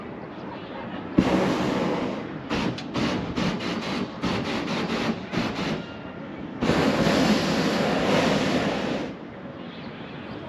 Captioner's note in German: Geräusche des Heißluftballons